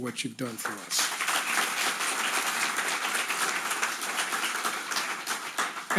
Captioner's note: audience applauding